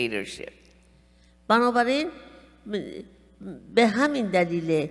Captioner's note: speaking persian